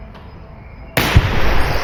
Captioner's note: gunshot